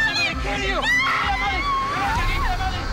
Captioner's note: screaming